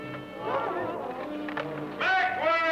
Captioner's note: crowd